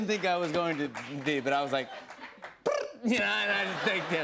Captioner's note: trills tongue